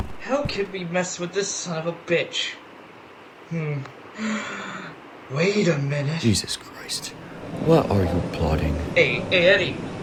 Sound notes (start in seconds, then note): 4.4 gasps